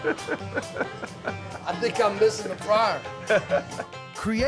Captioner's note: laughing